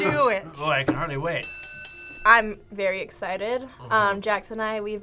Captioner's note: bell rings